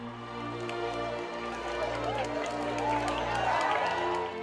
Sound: people applauding

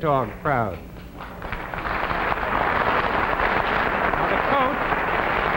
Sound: audience clapping

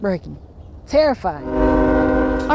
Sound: train whistles

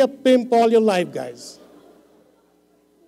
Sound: laughter

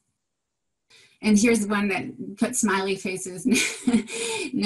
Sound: laughs

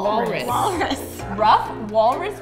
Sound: giggles

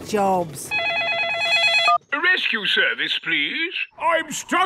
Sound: phone ringing

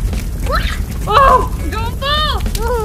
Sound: exclaims

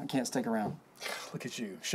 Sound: scoffs

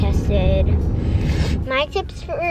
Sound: sniffling

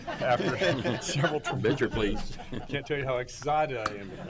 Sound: loud laughter

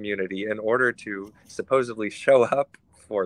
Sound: chuckles

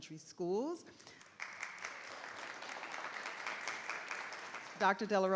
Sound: audience clapping

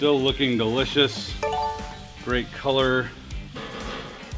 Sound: beeping sound

